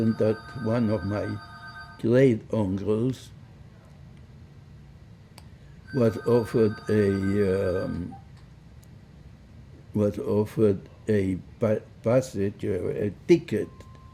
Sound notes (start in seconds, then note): 3.9 phone ringing; 11.0 phone ringing